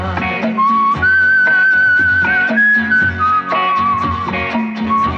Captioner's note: Whistles